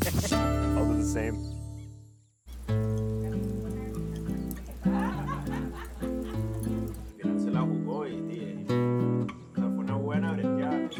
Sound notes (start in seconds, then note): 4.6 laughter; 6.6 indistinct chatter